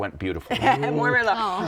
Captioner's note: laughs